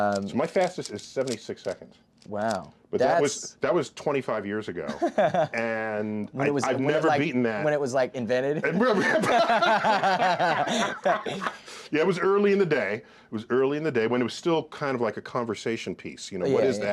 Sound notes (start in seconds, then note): 8.8 laughs